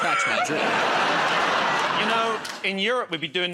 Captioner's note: laughter